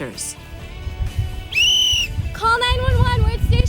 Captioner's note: blows whistle